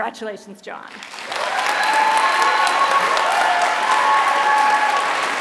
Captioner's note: applause